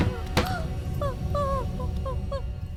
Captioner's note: chair Falls